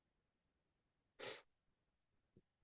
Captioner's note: sniffs